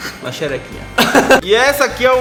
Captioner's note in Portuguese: Risos